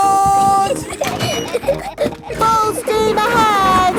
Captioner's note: giggling